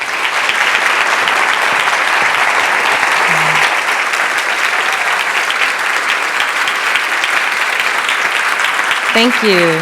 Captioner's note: applause